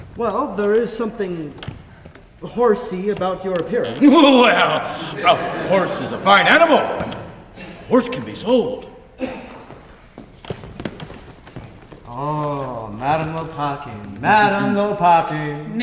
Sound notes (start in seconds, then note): 3.8 laughs in a horse-like-manner; 7.1 audience laughs softly; 10.4 footsteps entering with keys jingling